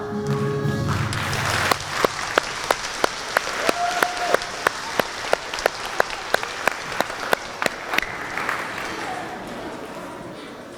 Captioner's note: applause